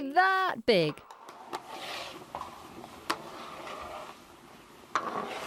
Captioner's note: cooking stick stirring